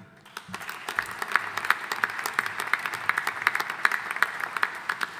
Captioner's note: audience applauding